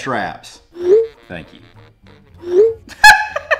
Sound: text whooshing; woman laughing

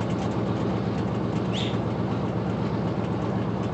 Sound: whistles

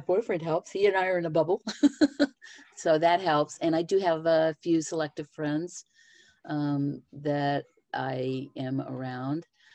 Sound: laughter

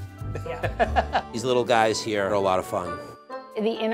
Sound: laughs

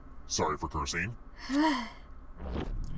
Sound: sighs

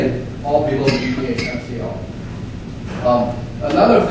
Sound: man coughing

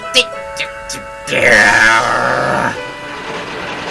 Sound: groan

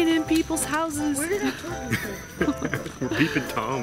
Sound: laughs

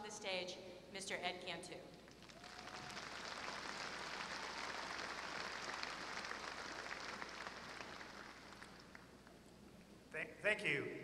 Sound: applause

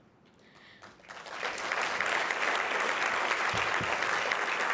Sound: applause

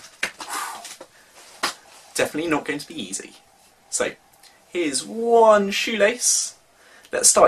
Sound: exhales

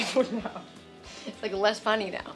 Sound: laughs

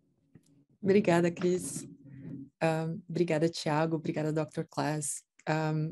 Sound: speaking in Portuguese

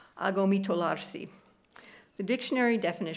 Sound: speaking italian

